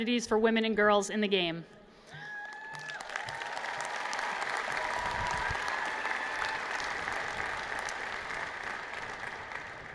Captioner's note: applause